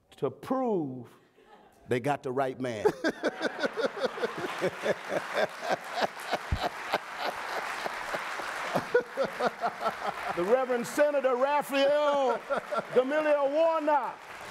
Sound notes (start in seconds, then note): 2.8 Raphael laughing; 3.4 audience applauding